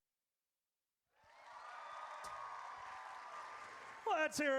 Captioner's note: audience cheers